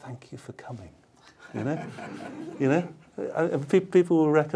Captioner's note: laughter